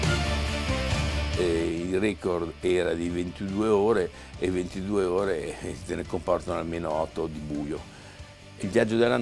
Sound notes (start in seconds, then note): 1.3 speaking in foreign language